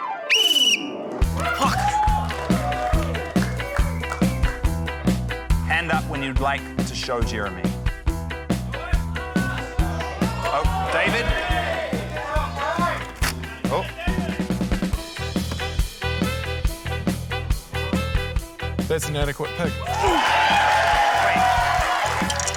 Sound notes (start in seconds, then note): 0.0 blows whistle; 1.3 scattered cheering; 8.7 audience shouts, exclaims; 15.7 frantic music; 19.8 cheering, applause